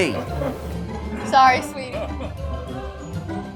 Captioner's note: laughter